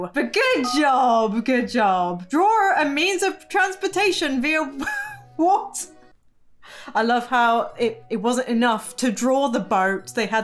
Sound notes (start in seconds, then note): 6.2 laughs